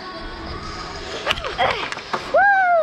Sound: grunt

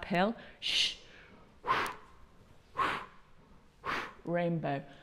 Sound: breath, breath, breath, breath

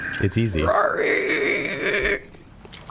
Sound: imitating enemy growl

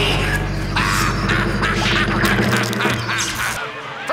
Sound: laughing maniacally

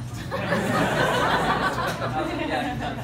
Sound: laughter

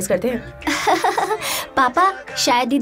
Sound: laughing

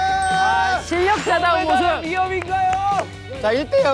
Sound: clapping

